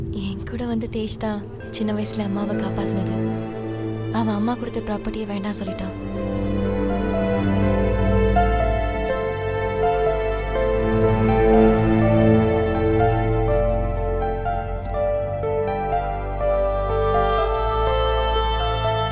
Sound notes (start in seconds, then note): none